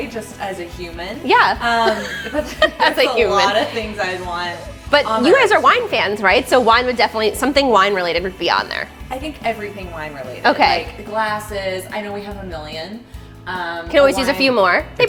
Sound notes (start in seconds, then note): 1.6 laughs